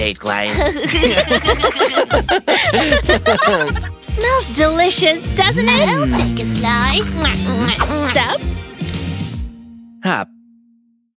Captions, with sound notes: I hate clients. *giggle* Smells delicious, doesn't it? I'll take a slice... *chews* Sup? Hup!